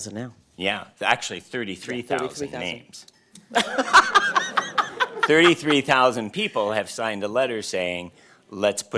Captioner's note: laughter